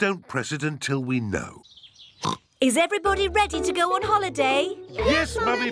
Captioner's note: oinks